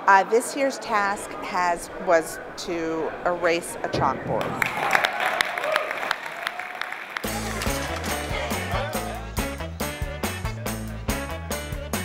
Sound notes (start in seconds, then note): 8.6 ^applause^